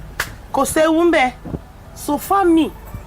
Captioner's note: speaks in local dailect